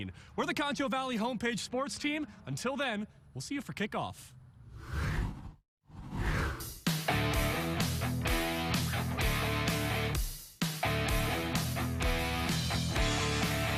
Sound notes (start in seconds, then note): 5.9 air whooshes; 6.8 upbeat rock music